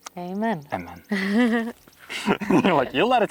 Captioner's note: both chuckle